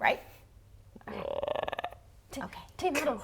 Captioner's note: frog croak